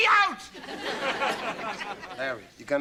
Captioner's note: audience laughter